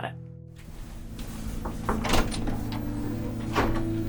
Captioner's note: knocking; hopeful music